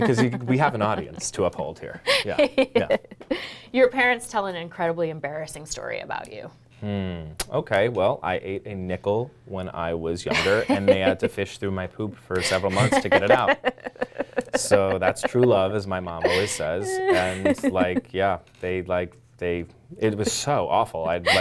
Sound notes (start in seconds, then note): 12.4 laughing